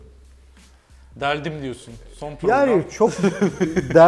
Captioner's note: laughs